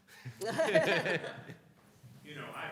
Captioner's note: laughing